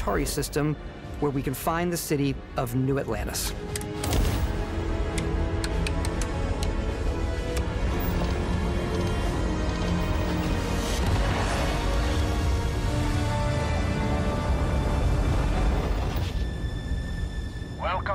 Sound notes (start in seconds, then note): 3.7 switches clicking; 11.9 grav drive roaring